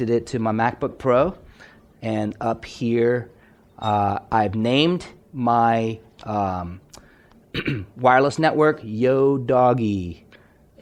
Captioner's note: clears throat